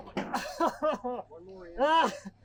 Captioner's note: man laughing